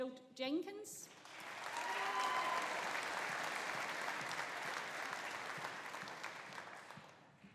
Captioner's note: audience applauding; audience cheering